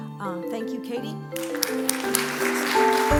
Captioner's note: applause